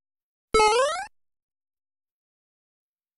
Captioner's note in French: Son de saut de jeu vidéo 8 bits